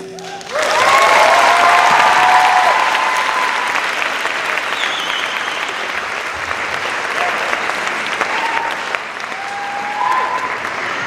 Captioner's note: cheers and applause